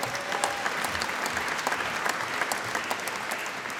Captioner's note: applause